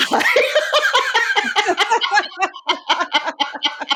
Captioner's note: both laughing